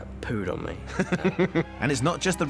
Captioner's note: shephard chuckles